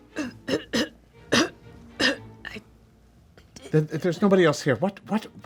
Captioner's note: clearing throat